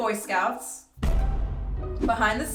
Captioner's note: explosion; comical music